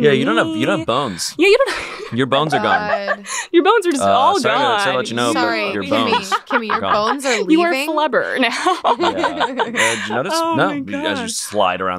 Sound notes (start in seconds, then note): 0.0 laughs; 8.7 laughs